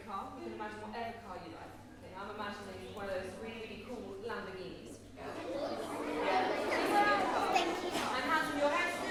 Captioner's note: children murmur